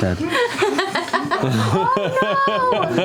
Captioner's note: laughter